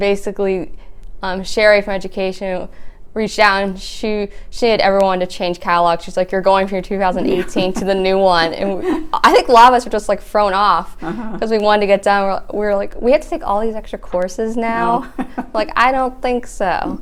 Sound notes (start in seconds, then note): 7.1 laughs; 14.8 chuckling